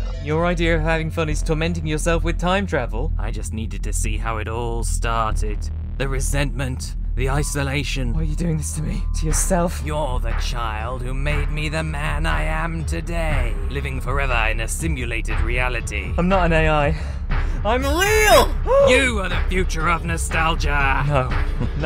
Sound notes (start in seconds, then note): 17.0 bit-crushed; 17.0 gasp